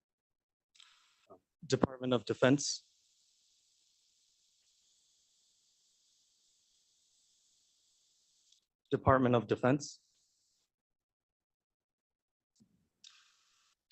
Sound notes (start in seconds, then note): 2.3 A pause